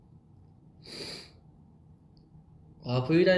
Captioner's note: sniffle